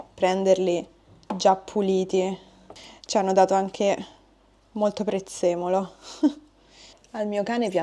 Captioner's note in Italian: sbuffare